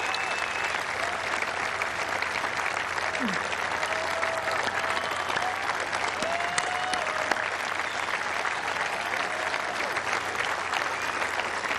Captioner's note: applause